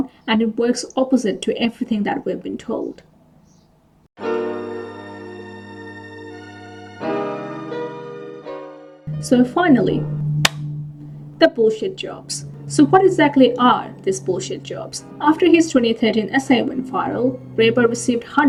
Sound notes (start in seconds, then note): 10.4 claps